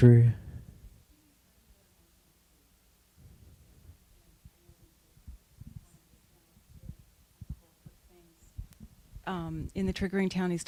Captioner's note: silence